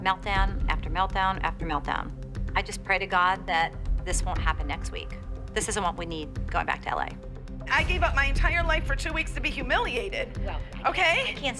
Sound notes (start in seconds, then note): none